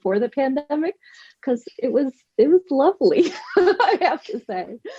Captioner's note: laughs